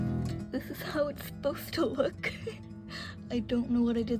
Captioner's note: laughing